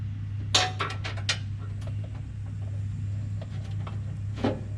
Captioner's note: metal clanging